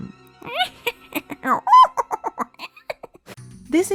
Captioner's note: making trickster noises